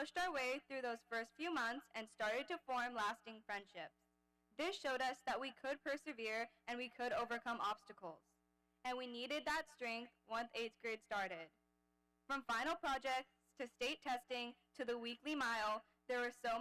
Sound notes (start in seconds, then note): none